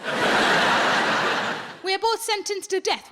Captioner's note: audience laughing